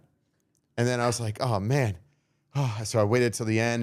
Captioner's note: sighs